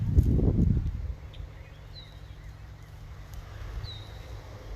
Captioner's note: bird chirps